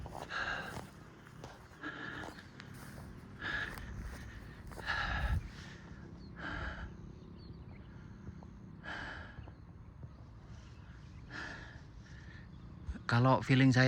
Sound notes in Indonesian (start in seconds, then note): 5.2 menghela napas